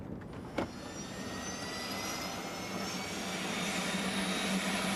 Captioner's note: motor revving